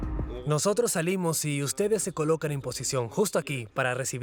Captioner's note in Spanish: Audio hablado en francés